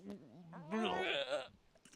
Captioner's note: gagging sounds